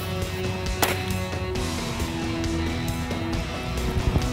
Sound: gunshots ring

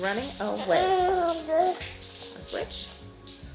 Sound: cooing

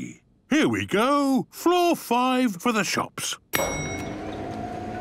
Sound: elevator dinging

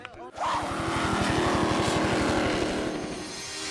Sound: whoosh; jetboat and helicopter sounds

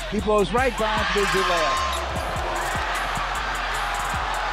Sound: crowd cheering

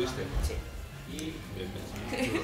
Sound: laughs

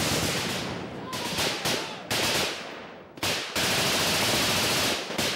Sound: shouting; guns firing

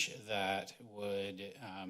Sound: none

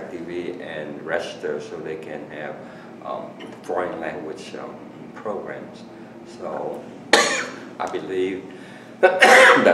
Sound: coughs; coughs

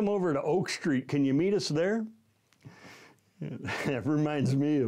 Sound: chuckling

